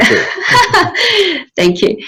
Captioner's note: laughing